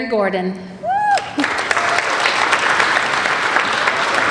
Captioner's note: applauding